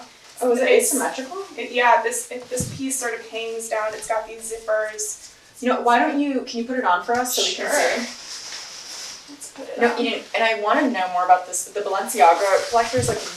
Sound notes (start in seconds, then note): 7.1 clothes rustle